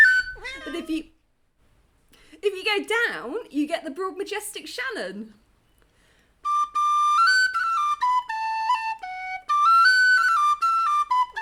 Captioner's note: meow